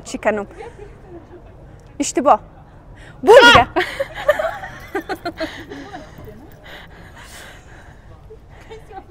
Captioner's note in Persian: خنده